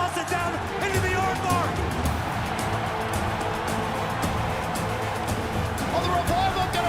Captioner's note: crowd cheering